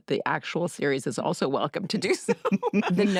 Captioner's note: laughter